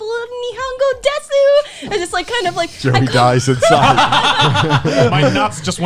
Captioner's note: laughing